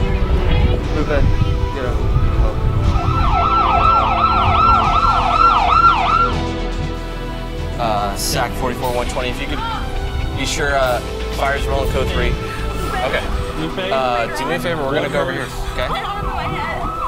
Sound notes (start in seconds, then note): 2.5 sirens blaring